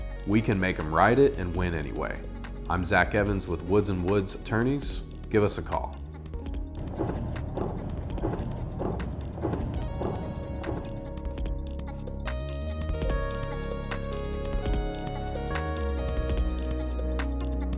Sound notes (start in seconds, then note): 6.4 soldiers Marching; 10.1 jazz Music